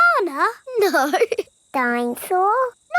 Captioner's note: laughing